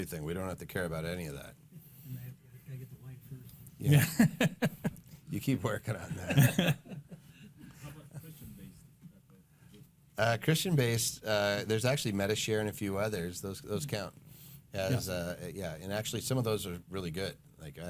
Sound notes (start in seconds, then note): 4.3 laughing